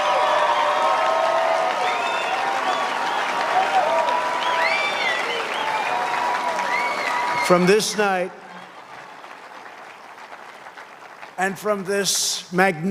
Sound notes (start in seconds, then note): 0.0 cheers and applause